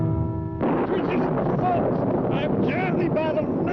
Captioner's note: thunder rumbling